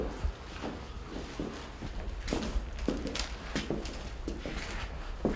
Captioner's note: footsteps